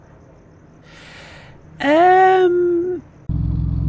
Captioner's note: long inhale